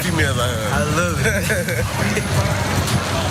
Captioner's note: laugh